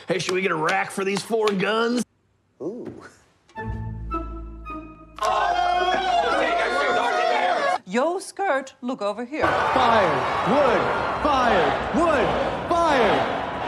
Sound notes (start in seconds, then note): 5.2 screaming and freaking out